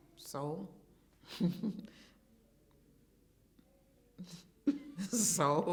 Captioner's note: laughing